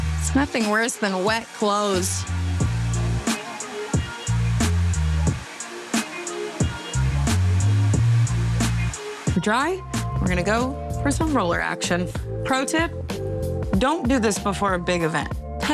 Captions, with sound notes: There's nothing worse than wet clothes. [bright upbeat music] [hair blower whooshing] We are dry. We're gonna go for some roller action. Pro tip, don't do this before a big event.